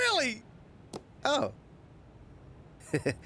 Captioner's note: chuckles